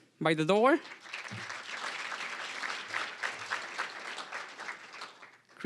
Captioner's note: applause